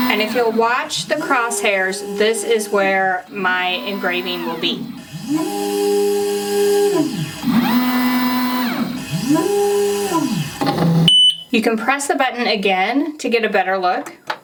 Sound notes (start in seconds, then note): 5.0 machine continues whirring; 10.8 machine beeping